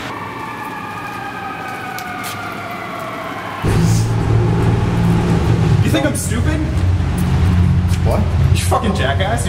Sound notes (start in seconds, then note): 0.0 siren